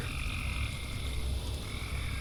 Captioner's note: crickets